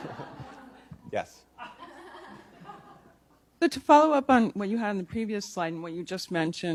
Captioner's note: laughter